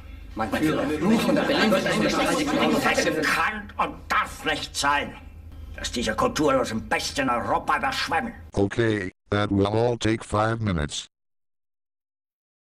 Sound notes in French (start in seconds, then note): 0.0 parlant dans un anglais simple; 0.6 la foule se dispute; 3.1 beuglant en bon français; 5.4 parlant dans un anglais simple